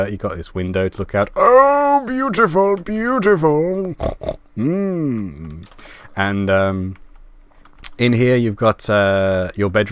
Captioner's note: pig Snort